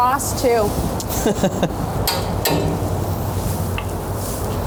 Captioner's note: laughs